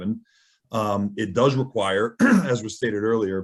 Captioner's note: clears throat